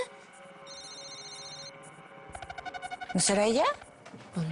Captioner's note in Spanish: Suena el celular